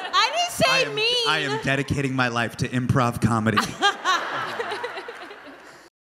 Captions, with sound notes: [crowd laughs] - I didn't say mean! - "I am dedicating my life to improv comedy." [Phoebe and crowd laughing]